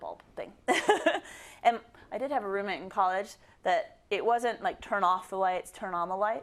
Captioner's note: laugh